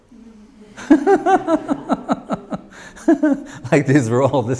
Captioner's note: laughs